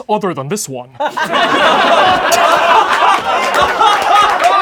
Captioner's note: laughing